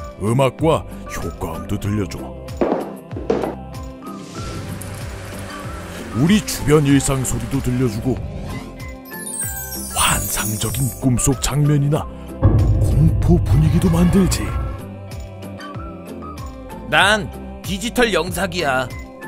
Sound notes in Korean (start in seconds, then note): 2.6 발소리 효과음; 4.2 빗소리; 9.0 반짝이는 효과음; 12.4 무거운 효과음